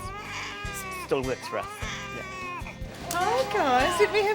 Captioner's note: baby crying